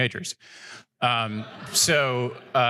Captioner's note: laughter